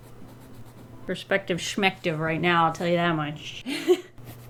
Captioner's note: laughs